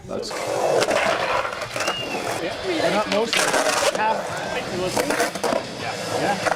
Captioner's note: skateboard wheels whirring